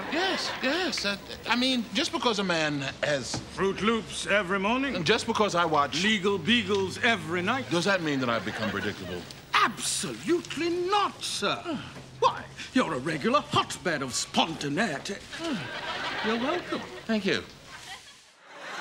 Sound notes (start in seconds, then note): 15.2 audience laughing